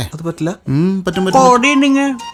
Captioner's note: mocking